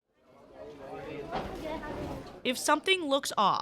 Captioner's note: students chatting